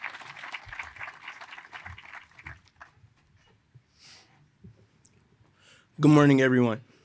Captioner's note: applause